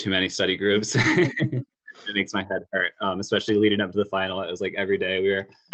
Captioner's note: laugh